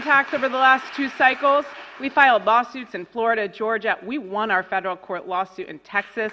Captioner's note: applause